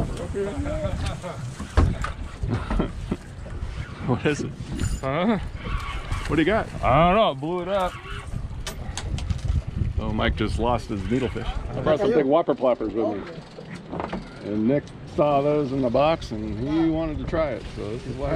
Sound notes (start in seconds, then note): 2.4 chuckling; 9.0 reel cranking